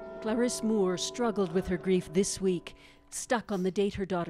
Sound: bell tolling

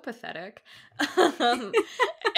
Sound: laughing; laughs

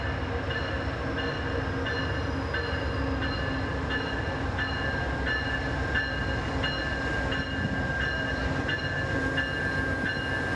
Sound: wind blowing

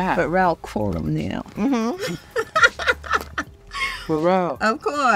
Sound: laughs

